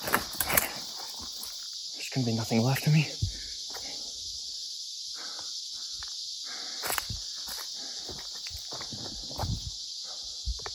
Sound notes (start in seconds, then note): none